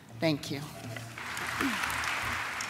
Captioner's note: applause